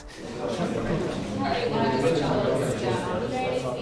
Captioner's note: crowd murmuring